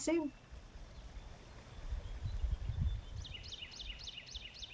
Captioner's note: birds chirping